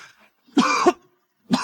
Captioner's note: cough